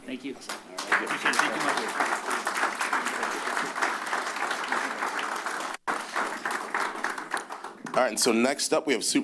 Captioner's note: applause